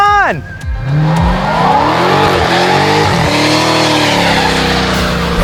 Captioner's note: revving